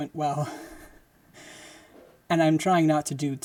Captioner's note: laughing